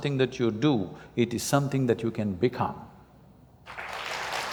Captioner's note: applause